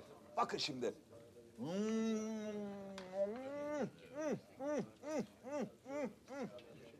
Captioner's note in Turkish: Beğenme sesi